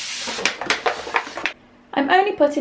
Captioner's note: sound of tray sliding